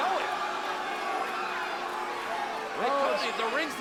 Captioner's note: audience booing